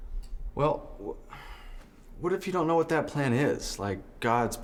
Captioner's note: sighs